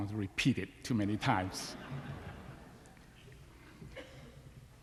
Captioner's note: laughter